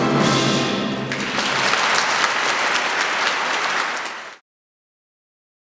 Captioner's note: audience clapping